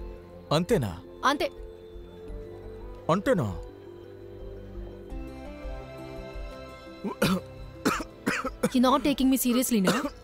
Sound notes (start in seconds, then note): 7.0 coughing